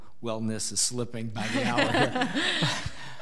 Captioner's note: laughing